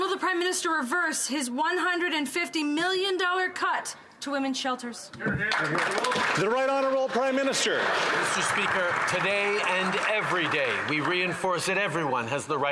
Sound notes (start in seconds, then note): 10.2 some Applause